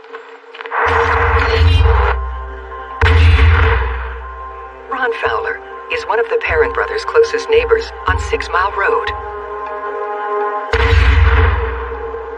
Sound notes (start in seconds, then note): 10.7 gun fires